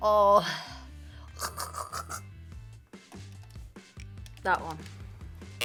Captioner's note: gags